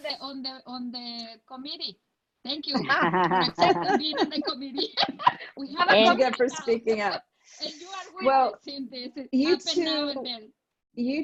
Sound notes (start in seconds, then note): 2.7 laughing